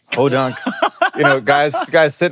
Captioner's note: laughing